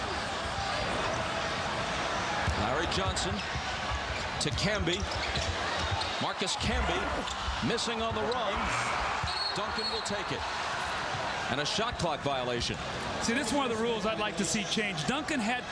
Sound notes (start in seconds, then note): 9.3 whistle